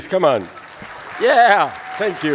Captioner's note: audience cheers